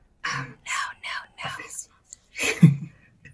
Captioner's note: giggles